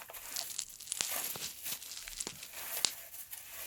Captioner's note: more popping sounds